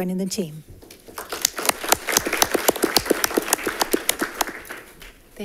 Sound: congregation claps

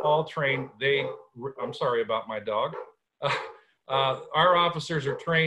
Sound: laughter

